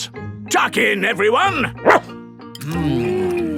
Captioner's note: barks